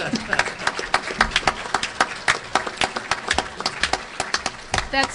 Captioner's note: applause